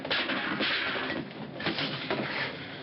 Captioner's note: clattering